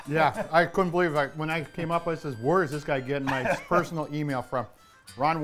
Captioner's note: laughing; laughing